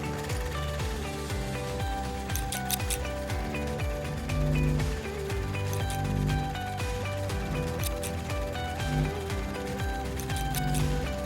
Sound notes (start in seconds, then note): 0.1 film strip rolling; 2.3 scissors snipping; 4.2 static buzzing; 6.3 upbeat music; 8.1 scissors snipping